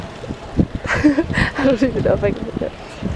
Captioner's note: laughs